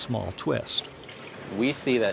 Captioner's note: water gently flowing